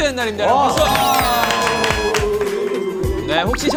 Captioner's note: clap Clap Clap Clap